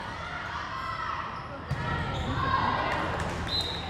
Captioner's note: players shouting; referee whistles